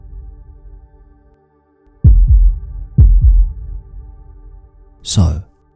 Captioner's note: heartbeat